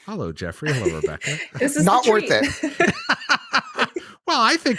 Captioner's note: laughs